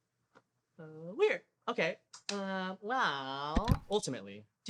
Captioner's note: click